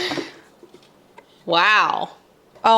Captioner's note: chuckle